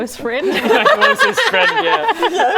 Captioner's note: laughing